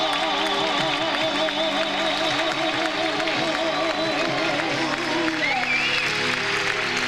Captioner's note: audience applauds; audience cheers